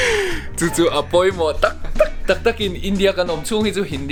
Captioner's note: haha